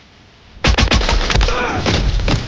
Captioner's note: gun shot